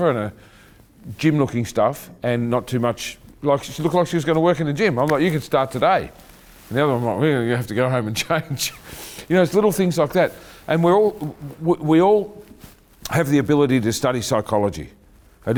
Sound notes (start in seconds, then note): 8.7 chuckling